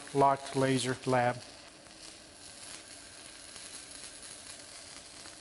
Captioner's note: laser burning